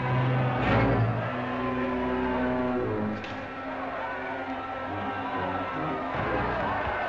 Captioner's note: crowd cheering; ominous music